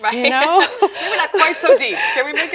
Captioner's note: laughing